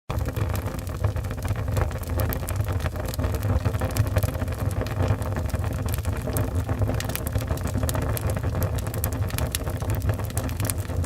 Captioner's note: burning fire sound